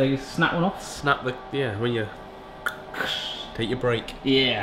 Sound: snaps

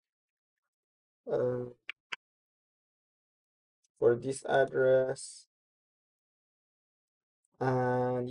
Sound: pause

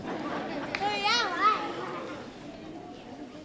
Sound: laughing

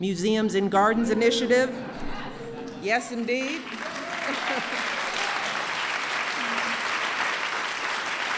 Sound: applause

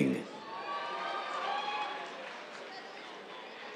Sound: cheers

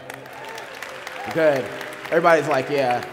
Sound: applause

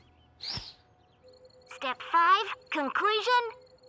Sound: on phone

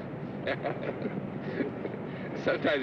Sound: Sam and Roy laughing

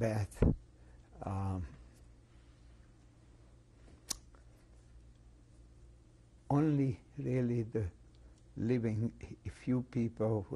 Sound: pauses for 6 seconds

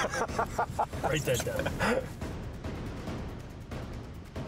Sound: laughter

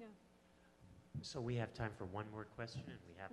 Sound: voiceover

